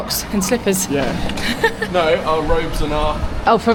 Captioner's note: laughs